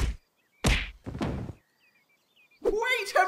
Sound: punching; thud!

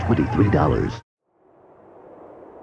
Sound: wind howling

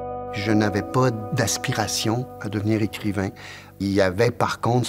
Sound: speaking French

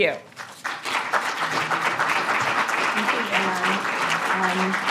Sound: audience applauds

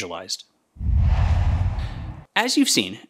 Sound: logo swooshes

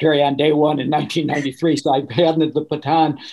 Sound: laughing

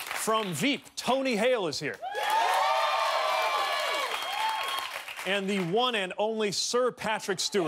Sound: cheers and applause

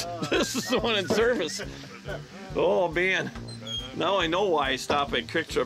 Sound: laughing

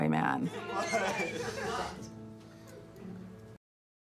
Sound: students laugh

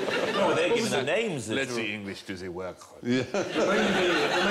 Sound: French accent

